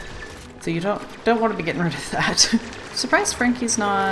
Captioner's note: laughs